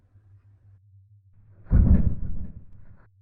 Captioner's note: rumble!